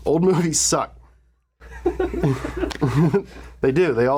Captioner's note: laughter echoes